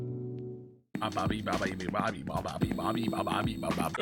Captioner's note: Skull vocalises